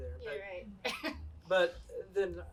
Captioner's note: laughs